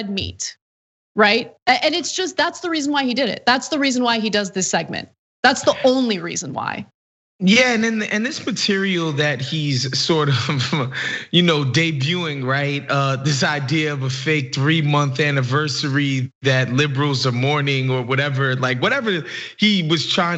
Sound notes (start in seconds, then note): 10.6 laugh